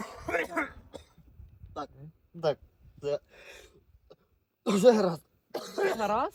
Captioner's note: coughs